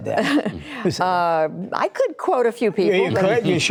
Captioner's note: laughter